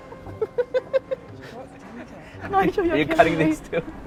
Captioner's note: laughs